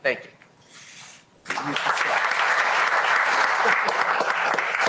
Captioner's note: applause